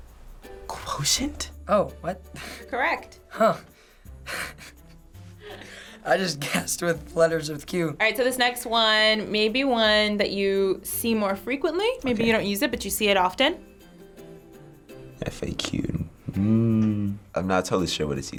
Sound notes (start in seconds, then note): 4.3 chuckles